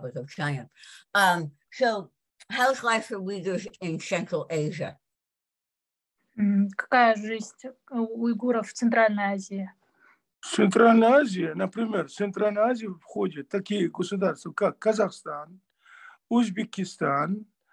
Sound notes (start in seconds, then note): 7.2 asking question in Russian to father; 15.1 in Russian